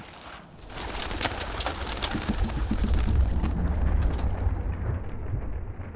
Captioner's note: wings fluttering and rustling